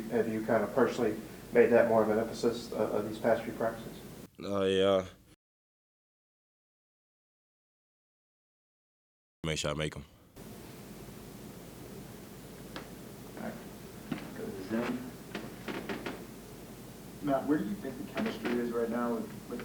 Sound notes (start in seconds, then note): 5.6 audio drop